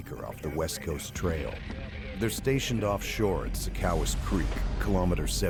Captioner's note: voiceover